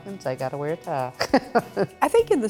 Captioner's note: laughs